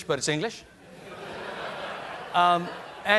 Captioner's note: laughter